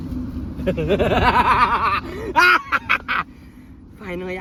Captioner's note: Cueball laughs